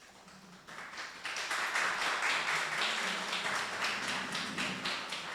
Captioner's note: audience applauding